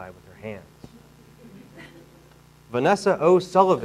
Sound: audience laughing

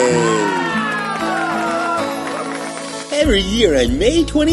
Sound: crowd cheering

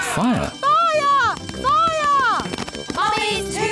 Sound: alarm blares

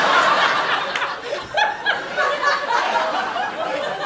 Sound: losing it in the background

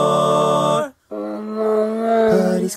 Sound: roar

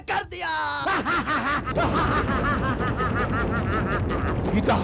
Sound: laughs

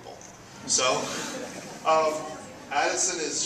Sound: audience laughs

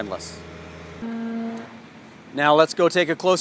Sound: machine buzzes distantly

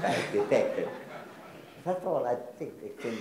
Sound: audience laughs

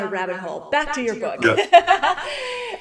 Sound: laughs

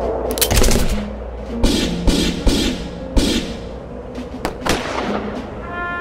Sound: gun shots

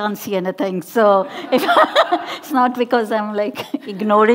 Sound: laughing

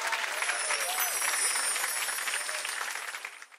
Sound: bells tinkling

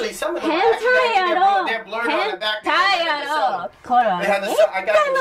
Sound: group chattering

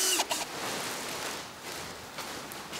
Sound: rustling

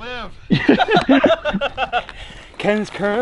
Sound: laughing

